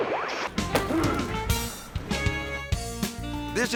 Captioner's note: tense dramatic music; lively upbeat music; football player grunts